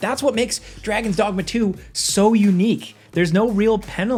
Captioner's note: none